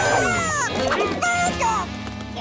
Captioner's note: squawking